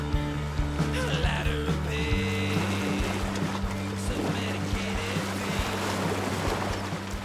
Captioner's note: upbeat music; waves gently lapping